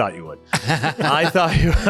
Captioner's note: laughing